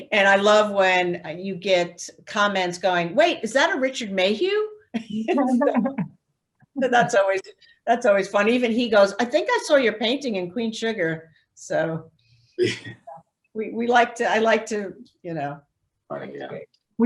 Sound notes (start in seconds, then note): 5.3 laughs